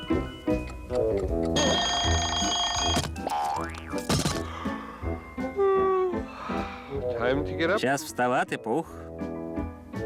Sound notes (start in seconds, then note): 1.4 ringing; 5.5 yawning